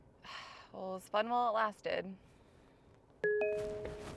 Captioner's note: sighs; phone dings